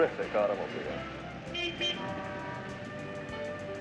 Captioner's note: cars honking